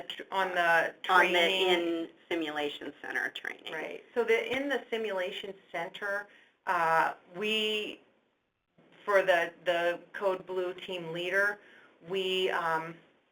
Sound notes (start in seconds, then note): 4.1 voiceover